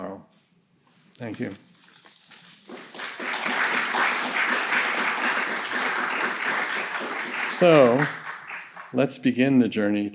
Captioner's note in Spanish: aplausos